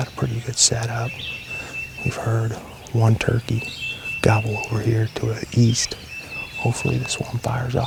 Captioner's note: whispering